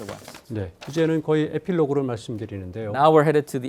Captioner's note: speaking in Korean